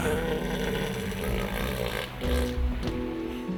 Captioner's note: bellowing